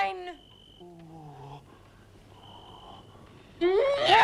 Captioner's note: Torente groans; Hundra shouts